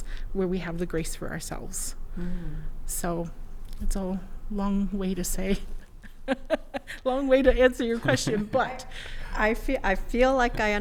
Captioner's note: laughs